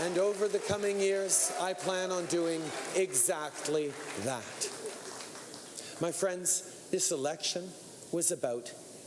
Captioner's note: applause